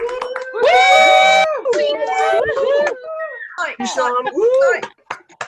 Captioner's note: attendees cheering